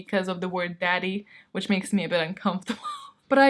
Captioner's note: laughs